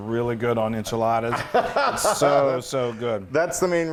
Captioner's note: laugh